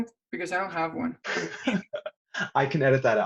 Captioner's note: laughs